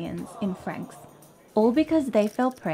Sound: crowd groans

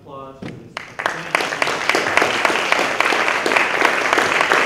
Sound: applause

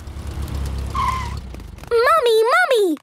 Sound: tires screeching

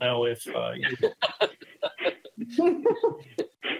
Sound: laughing

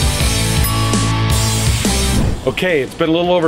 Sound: timer chiming

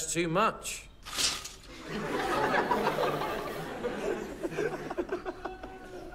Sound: laughter

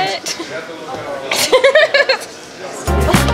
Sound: laughs

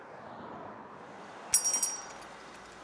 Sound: bell jingles

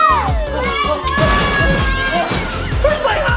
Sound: crashing sound effect

